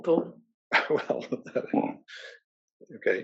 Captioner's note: laugh